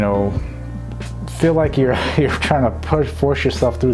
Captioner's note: laughs